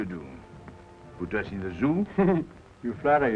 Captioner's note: chuckles